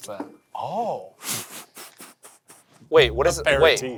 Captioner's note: laughing